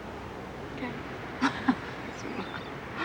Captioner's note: chuckles